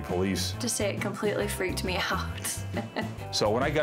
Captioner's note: chuckles